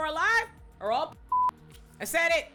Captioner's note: beep